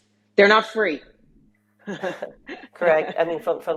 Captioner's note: chuckles